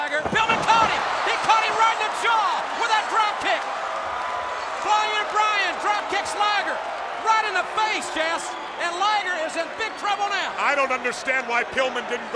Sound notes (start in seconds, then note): 0.0 body thudding; 0.0 blows thudding